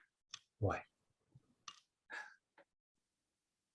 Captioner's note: sighs heavily